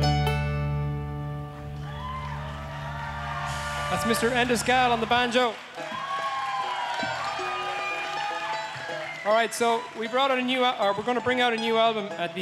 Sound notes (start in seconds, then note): 2.3 audience cheering and applauding